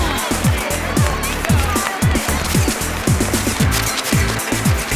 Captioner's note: cheering; camera shutter